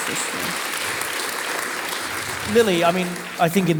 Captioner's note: audience applauding